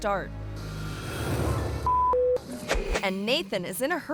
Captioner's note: suspenseful music; beep